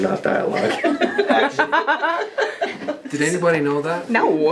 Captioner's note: laughing